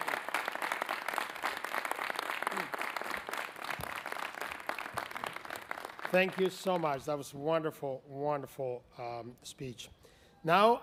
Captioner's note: applause